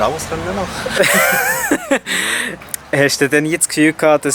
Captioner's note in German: beide lachen